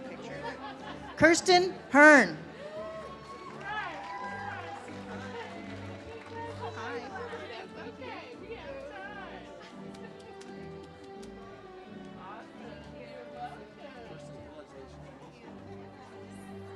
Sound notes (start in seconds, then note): 2.6 audience cheers; 10.4 ceremonial music